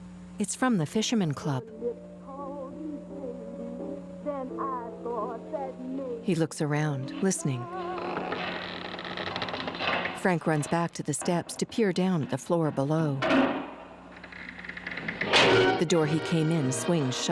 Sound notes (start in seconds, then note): 1.6 distant sultry blues tune; 7.6 creaking; 15.2 suspenseful music